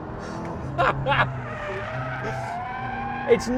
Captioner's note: laughs